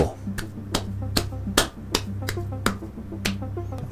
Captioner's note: claps